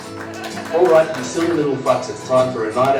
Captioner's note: robot Voice